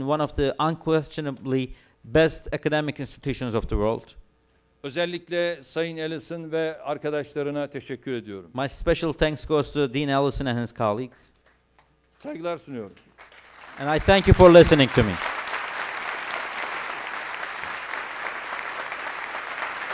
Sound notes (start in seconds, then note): 6.1 non-english speech; 12.9 non-english speech; 16.4 applause